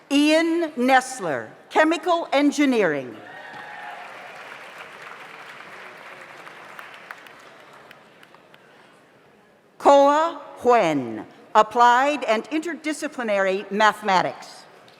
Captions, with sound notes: Ian Nestler, Chemical Engineering. (audience applauds) Koa Nhen, Applied and Interdisciplinary Mathematics.